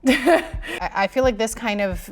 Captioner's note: chuckles